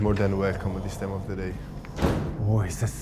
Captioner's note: door thudding